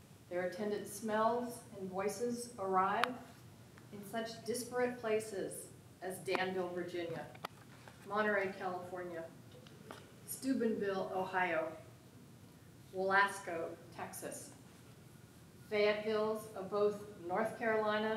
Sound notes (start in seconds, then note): none